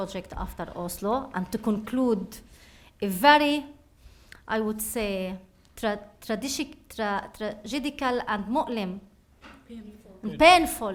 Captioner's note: speaking arabic